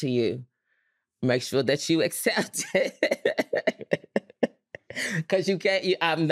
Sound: laughs

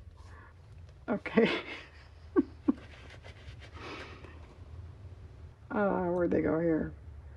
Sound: laughs

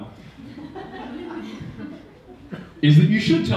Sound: audience laughing

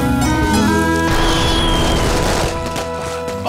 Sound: fireworks exploding

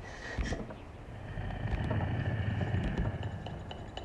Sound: footsteps

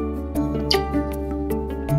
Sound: kissing

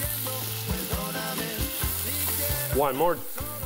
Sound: searing in pan

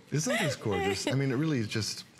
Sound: laughter

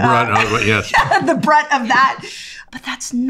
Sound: laughs

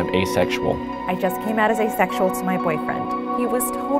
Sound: voiceover

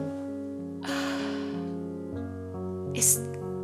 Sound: gasps

